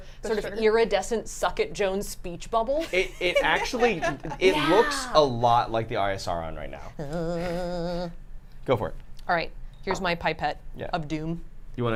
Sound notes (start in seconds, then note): 2.8 laughs